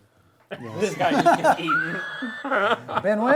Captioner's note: laughter